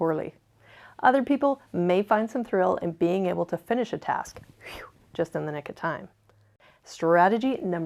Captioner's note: whew!